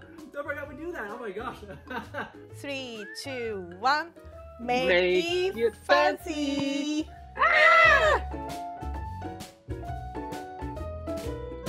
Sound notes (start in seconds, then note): 7.3 scream; 7.9 upbeat jazz music